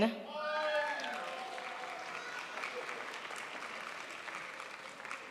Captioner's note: crowd applauds